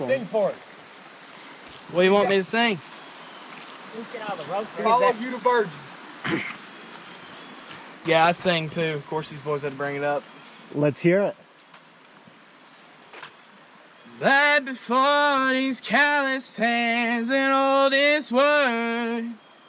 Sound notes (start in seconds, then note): 4.0 friend faintly chattering